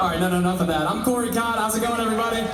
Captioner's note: crowd chanting